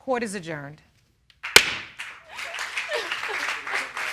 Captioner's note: sobbing